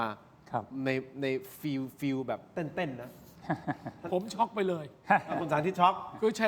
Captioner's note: laughs